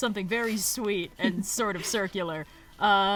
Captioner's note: laughs